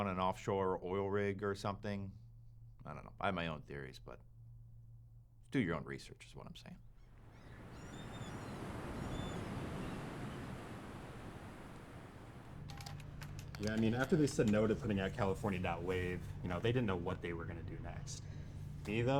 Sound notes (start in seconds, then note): 7.3 seagulls cawing; 10.6 waves crashing